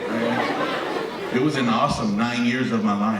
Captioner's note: audience laughing